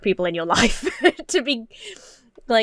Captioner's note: chuckles